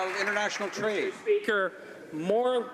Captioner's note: some Applause